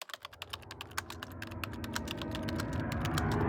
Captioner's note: typing